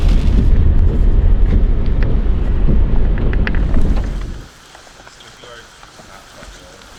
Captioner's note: sound of wipers going across windshield; background talking of group